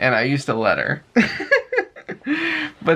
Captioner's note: laughter